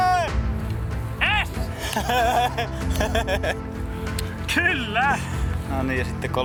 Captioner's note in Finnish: naurua